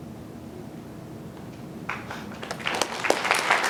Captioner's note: applause